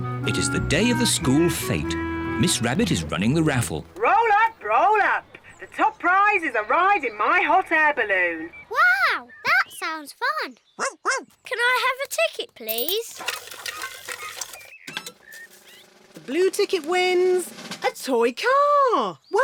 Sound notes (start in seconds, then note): 10.6 barks